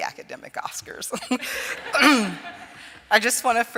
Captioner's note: laughter